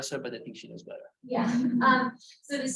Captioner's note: laughs